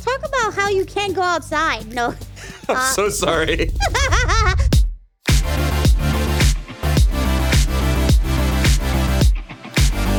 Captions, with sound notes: - Talk about how you can't go outside. No. - I'm so sorry. (laughing) (upbeat music)